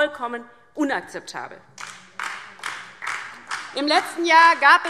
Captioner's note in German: Beifall DIE LINKE und vereinzelt SPD